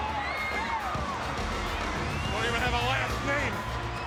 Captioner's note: audience cheers